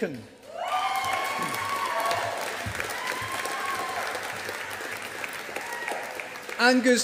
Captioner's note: audience applauding